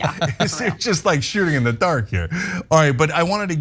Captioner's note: laugh